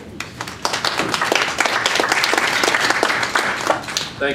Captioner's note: applause